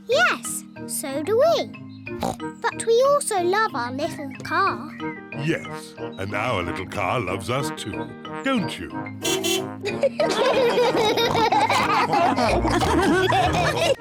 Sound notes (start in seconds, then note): 2.2 snorts; 9.2 car horn beeps; 9.8 all laugh